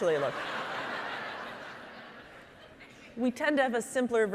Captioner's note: audience laughing